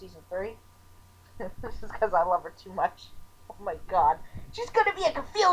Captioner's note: chuckling